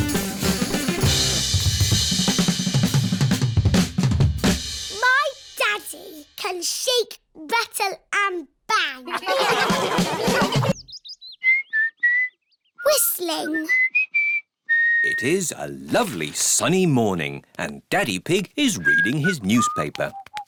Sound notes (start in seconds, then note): 2.1 drum solo playing; 9.0 all laughing; 10.7 whistling